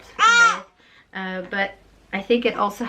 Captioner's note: cries